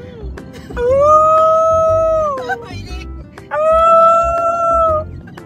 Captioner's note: woooo